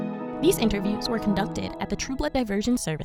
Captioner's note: voiceover